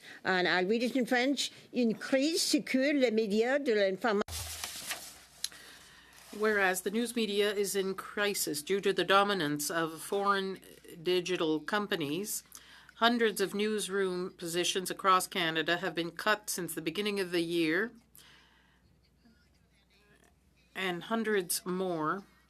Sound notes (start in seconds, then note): 6.9 speaking French